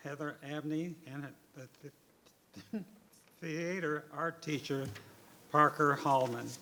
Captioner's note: chuckles